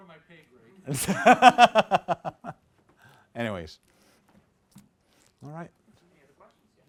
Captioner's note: laughs